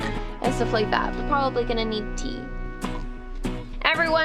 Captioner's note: slurp